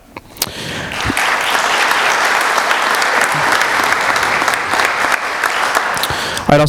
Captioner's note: applause